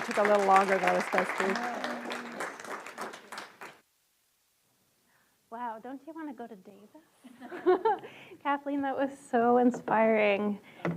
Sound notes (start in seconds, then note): 0.0 audience applauds; 7.4 audience laughs